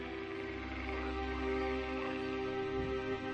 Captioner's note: swamp sounds